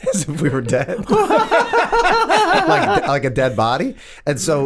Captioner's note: all laugh